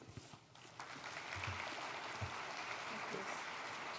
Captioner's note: applause